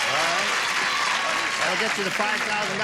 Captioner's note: cheering